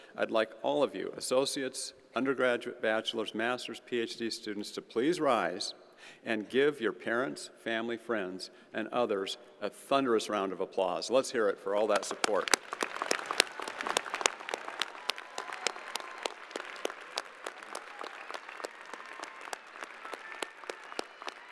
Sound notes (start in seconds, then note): 12.5 graduates applauding